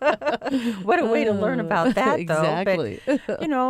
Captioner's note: laughter